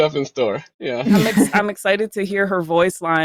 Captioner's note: laughter